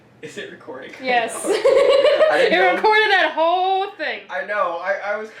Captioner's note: laughs